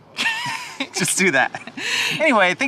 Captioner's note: laughing